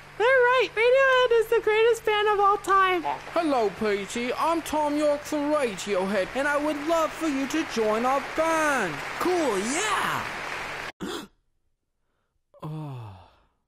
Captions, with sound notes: - They're right, Radiohead is greatest band of all time. - Hello pretty, I'm Thom Yorke from Radiohead and I would love for you to join our band! - Cool, yeah! [gasps awake] - Ah.